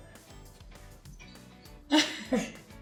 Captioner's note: girls chuckle; laughs